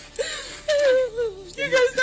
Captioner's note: whimpers